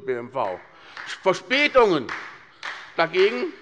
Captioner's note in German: Beifall bei der SPD